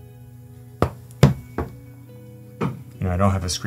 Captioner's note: iPad thumping